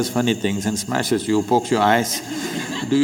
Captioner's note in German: Lachen